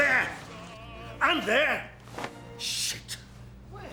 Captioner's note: welsh accent